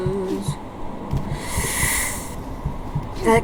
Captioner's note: Inhale of where'd my Path of Pain skills go